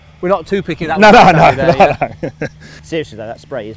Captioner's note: everyone laughs